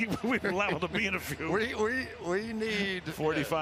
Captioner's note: laughs